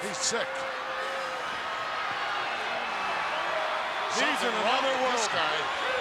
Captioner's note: applause